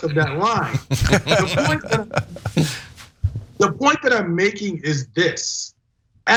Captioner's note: laugh